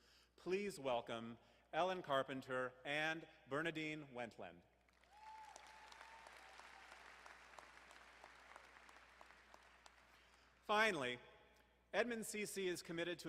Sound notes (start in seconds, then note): 4.9 crowd applauding